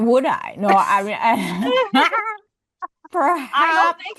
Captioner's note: laugh